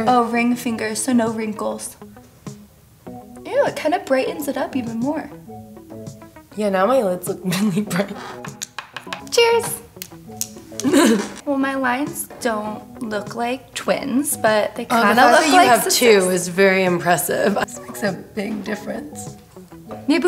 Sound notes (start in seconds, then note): 8.5 pens click together; 10.8 laughter